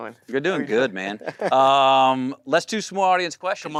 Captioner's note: laughs